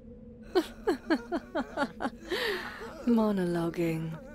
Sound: discord laughs

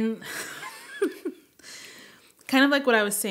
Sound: laughing

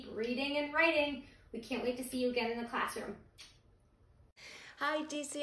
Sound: kiss

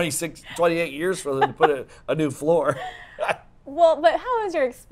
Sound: laughs

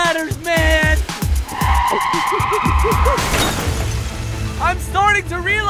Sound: tires screeching

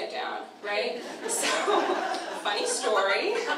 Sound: audience laughter

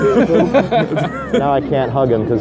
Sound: laughing

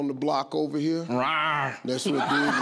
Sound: roars

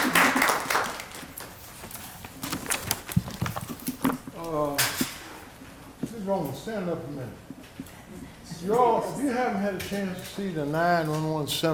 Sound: applause

